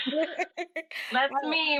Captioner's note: laughing